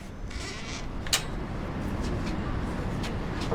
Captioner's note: door creaks